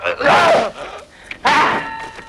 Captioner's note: man groans; man shouting